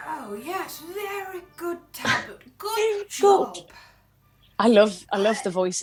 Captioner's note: Sketch audio plays